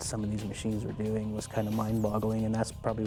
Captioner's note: voiceover